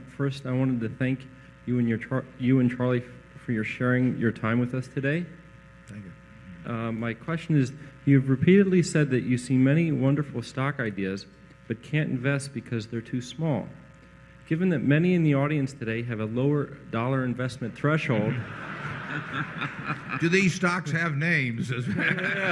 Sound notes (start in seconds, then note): 18.2 laughter; 21.8 laughter